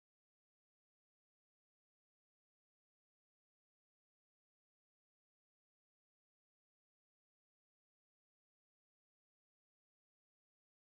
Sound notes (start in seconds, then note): none